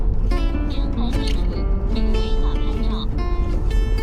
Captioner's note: navigation audio